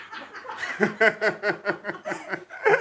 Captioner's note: laughs